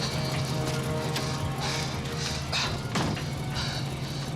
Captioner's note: car running